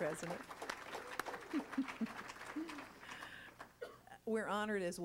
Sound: applauding; chuckles

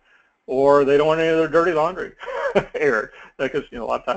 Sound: laugh

